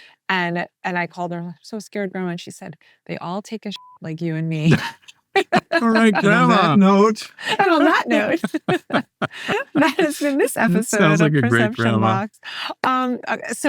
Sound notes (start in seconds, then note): 3.7 beep; 5.4 all laughing